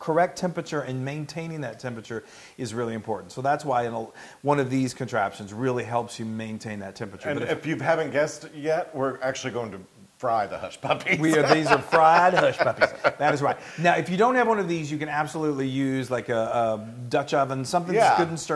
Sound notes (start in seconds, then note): 10.9 laugh